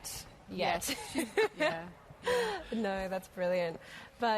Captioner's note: laughter